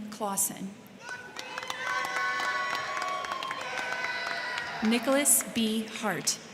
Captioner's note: crowd cheering; crowd clapping